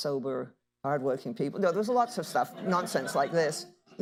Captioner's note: laughter